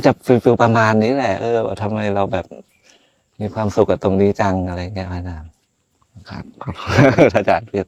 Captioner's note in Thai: เสียงหัวเราะ